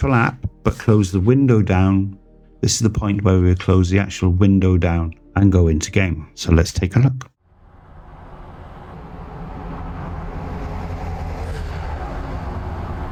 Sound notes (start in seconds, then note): 7.7 engine revving